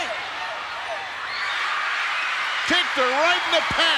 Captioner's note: audience cheering